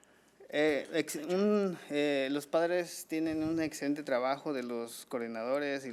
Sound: man speaking foreign language

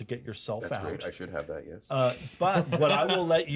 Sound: speaker laughs

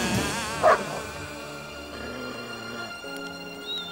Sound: barks

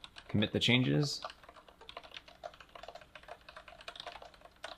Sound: keystrokes

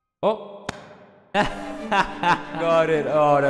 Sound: 10/10 voice acting laugh

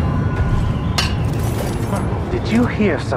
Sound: metal clanging

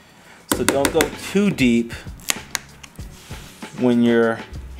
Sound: tapping

